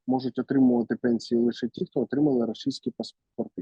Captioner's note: Russian